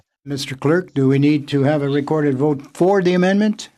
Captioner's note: speaking French